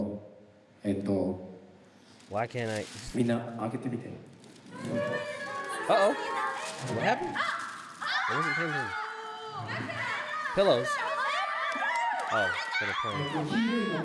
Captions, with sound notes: (speaking in foreign language) Why can't I? (speaking in foreign language) What happened? (screaming) Pillows. Oh, for the color.